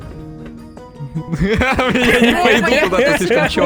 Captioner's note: laughter